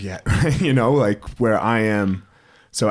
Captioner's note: chuckles